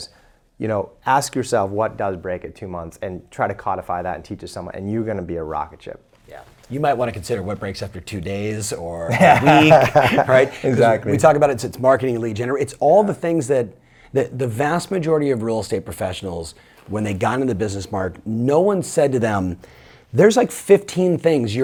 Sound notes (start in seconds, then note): 9.1 laughs